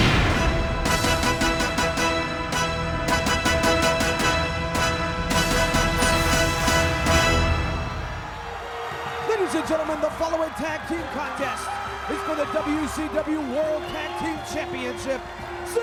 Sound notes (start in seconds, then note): 0.0 music intensifies; 8.0 crowd cheering